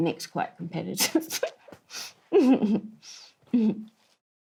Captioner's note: laughs